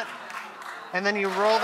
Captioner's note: audience applauds